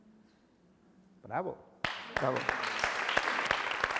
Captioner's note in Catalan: aplaudeixen